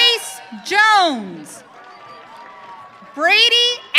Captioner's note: audience cheering